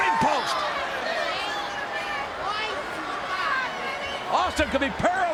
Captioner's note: crowd chattering